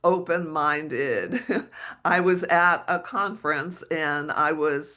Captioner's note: chuckles